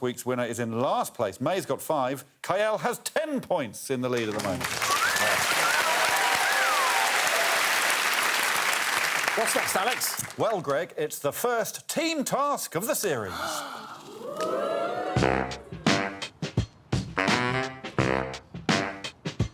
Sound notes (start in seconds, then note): 6.5 cheering and applause; 6.5 whistling; 13.2 gasping; 13.4 audience 'ooh'ing; 14.6 theme music playing